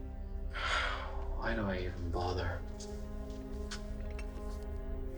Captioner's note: Arthur sighs